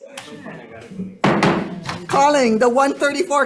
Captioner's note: gavel bangs